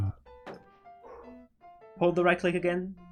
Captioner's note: phew